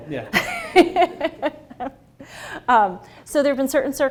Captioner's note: laughing